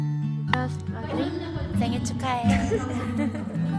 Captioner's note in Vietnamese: tiếng hàn